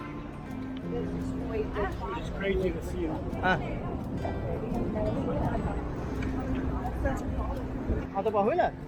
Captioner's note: people chatter on the walk